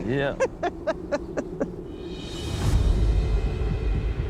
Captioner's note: laughs